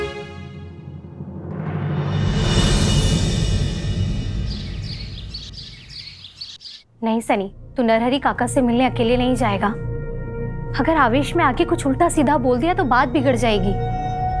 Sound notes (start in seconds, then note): 2.1 sweeping music; 4.3 birds chirping